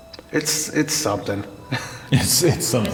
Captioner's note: laughs